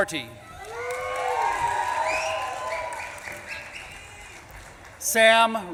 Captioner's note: audience claps and cheers